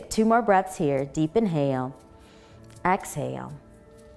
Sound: exhaling; inhaling

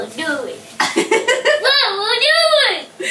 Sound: laughter

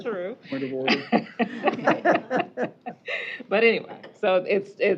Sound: laughing

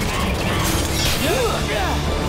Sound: grunting

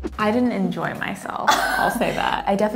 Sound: laughs

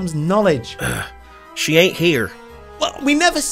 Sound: grunts

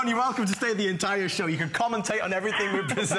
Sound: laughter

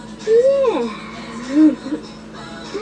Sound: chuckles

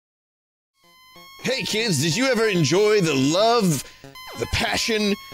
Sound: 90s announcer voice

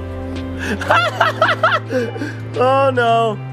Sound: laughs

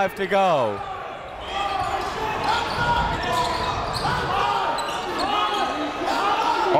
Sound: coaches yelling; crowd talking

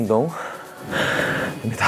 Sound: pant

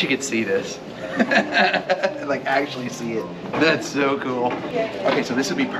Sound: laughs

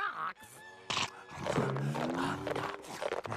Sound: scrunching

